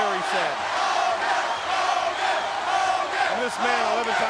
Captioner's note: crowd cheering